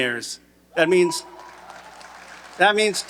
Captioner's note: audience cheering and applauding